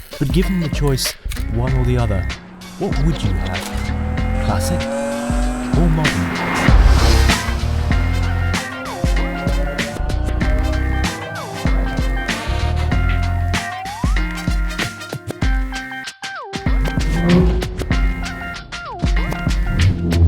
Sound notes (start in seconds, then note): 5.1 engine revs; 6.8 upbeat music